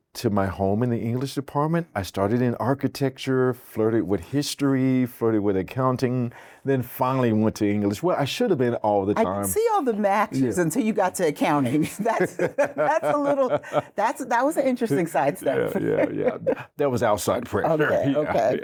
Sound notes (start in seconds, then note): 11.7 laughs